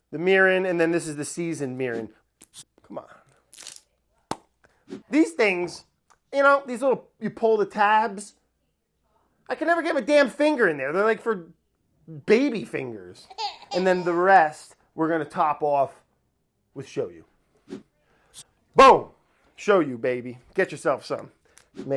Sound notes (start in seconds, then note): 13.3 baby crying